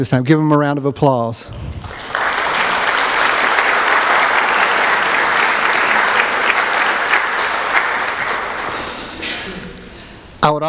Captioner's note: applause